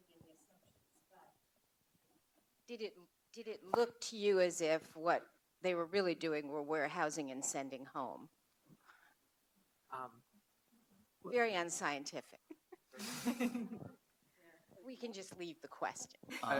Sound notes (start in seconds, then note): 12.5 laughs